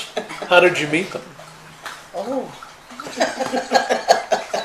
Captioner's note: laughing